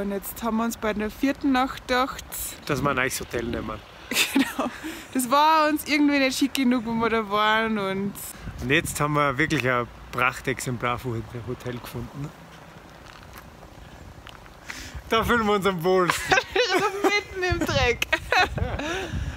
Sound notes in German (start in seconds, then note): 4.1 lacht